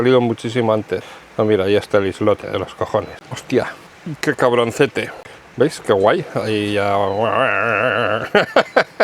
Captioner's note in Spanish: risas